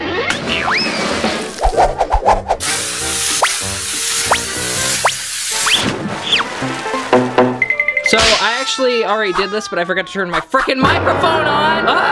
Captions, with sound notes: (whooshing) (spraying) So I actually already did this, but I forgot to turn my fricking microphone on!